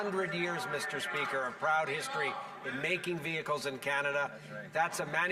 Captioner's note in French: voix de l'interprète